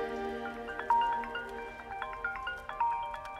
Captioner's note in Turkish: Telefon çalıyor